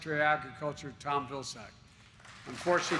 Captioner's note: applause